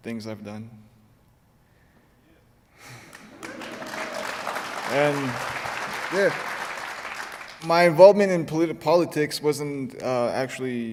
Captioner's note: applause